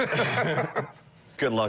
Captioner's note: laughs